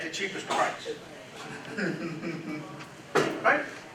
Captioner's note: laughter